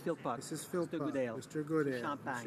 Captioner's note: speaking Alternate Language